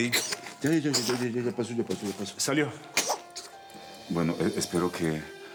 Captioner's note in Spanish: Estornudos de la niña